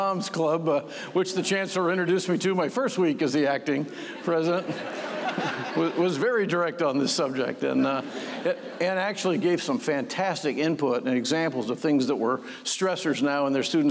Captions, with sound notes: >> THE AGGIE MOMS CLUB, WHICH THE CHANCELLOR INTRODUCED ME TO MY FIRST WEEK AS THE ACTING PRESIDENT -- [LAUGHTER] -- WAS VERY DIRECT ON THE SUBJECT. AND ACTUALLY GAVE SOME FANTASTIC INPUT AND EXAMPLES OF THINGS THAT WERE STRESSORS NOW IN THEIR